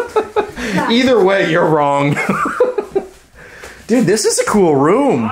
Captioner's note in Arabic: يضحك